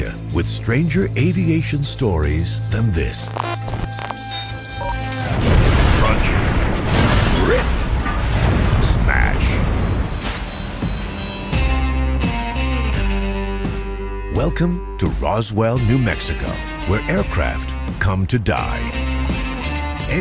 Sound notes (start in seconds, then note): 3.0 static and interference; 11.5 western music playing